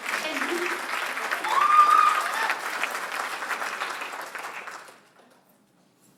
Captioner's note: applause